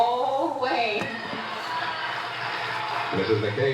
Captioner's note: cheers